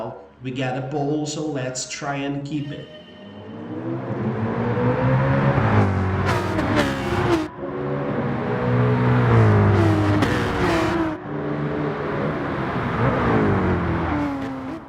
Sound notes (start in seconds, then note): 3.4 engines revving, cars noises